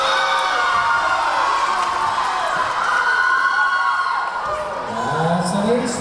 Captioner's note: cheering; clapping